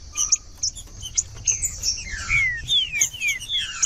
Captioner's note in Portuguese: trinca ferro cantando